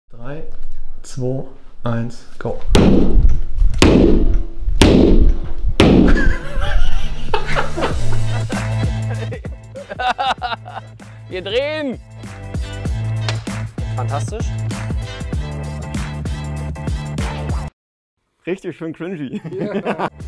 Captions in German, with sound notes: 3,2,1 GO! (Kameramann lacht) Wir drehen! Fantastisch! Richtig schön cringy!